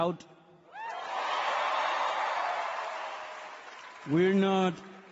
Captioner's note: audience cheering